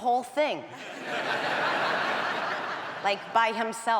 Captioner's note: audience laughs